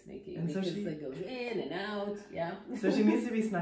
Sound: laughs

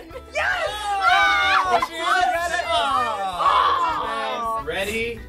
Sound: all clamoring

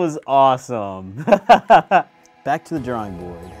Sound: laughs

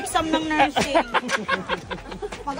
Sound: laughs

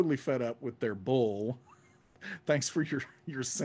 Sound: laughing

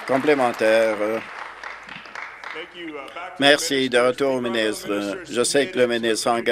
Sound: applause

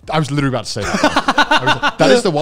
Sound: laughs

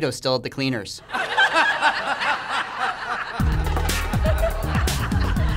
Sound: laughter

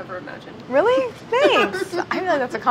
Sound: laughing

